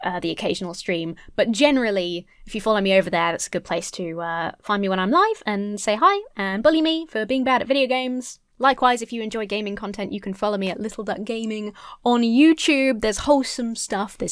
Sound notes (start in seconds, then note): none